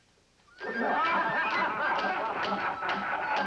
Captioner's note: men Laughing, Clapping